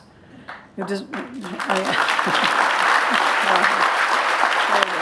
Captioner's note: applause